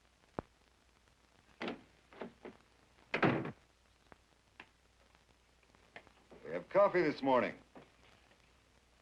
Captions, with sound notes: (door thuds) - We have coffee this morning.